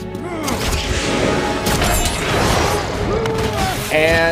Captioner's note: jets swooshing